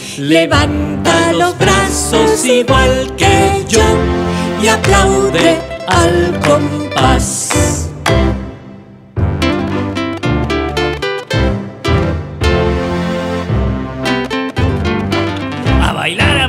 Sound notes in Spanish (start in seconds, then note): 6.3 Sonido de Palmas; 8.6 Música alegre